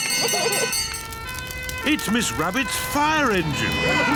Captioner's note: children giggling; siren blares; all cheer